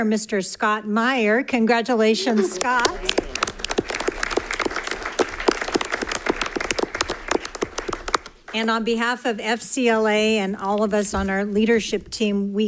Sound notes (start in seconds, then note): 2.2 applause